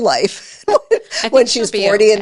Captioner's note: laughs